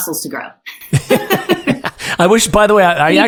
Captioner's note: both laughing